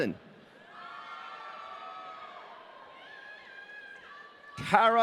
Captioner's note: audience cheering